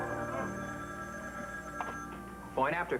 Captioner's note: telephone rings